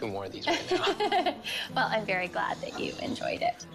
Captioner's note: lauaughs